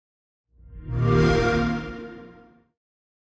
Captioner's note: xbox sound